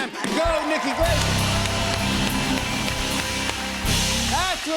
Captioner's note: cheers and applause